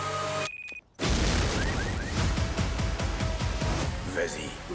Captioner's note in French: bip, alarme de voiture